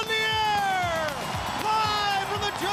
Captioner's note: crowd cheering